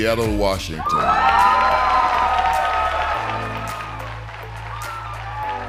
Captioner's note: cheers and applause